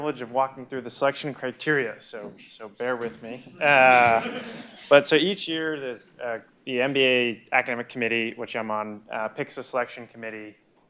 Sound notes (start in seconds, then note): 2.1 laugh